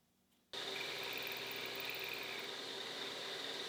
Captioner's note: tool humming